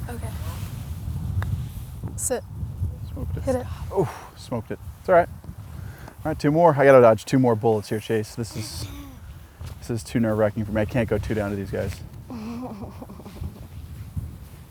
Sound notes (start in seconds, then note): 12.3 giggling